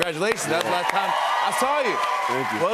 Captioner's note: cheers and applause